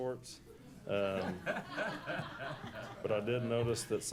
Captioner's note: laughs